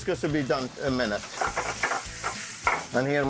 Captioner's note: pan sizzling